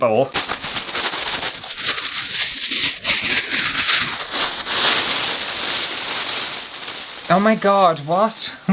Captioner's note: paper Rustling